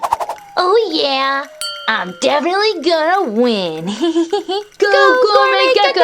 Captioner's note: giggles